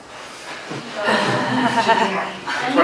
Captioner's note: laughter